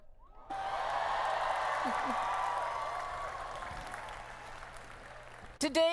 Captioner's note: cheering